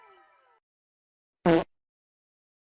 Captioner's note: fart